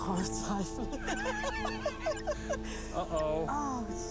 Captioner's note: laughter